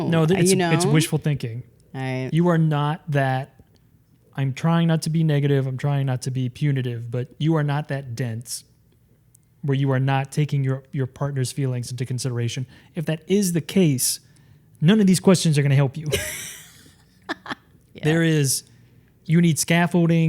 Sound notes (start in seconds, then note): 16.0 laughing